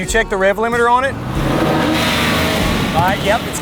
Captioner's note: engine revving